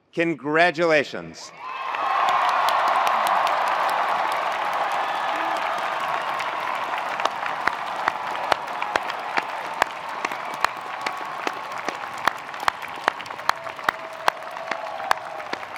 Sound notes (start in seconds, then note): 1.6 attendees applauding; 1.6 attendees cheering